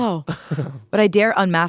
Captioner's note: laughing